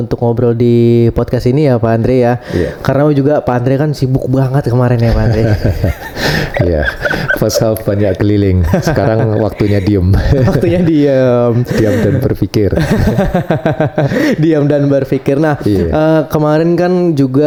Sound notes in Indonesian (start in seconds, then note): 5.0 tertawa; 12.7 tertawa